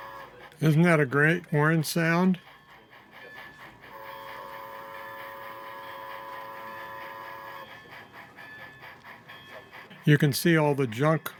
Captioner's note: whistle